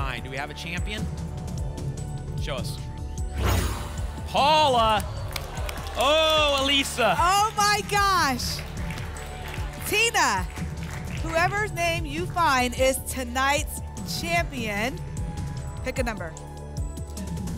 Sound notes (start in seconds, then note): 3.3 whoosh; 8.6 applause